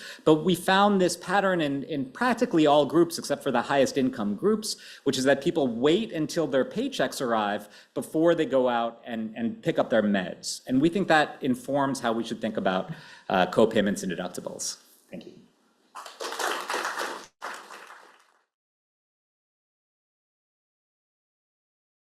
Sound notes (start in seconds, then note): 15.9 applause